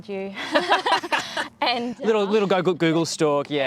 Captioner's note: laughing